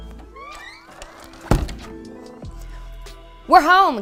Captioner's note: door creaking; door thuds